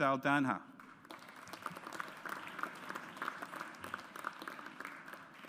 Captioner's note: audience applauds